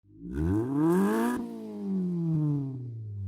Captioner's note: engine revs